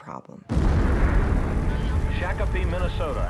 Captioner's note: explosions pound